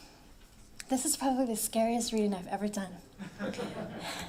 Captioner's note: laughs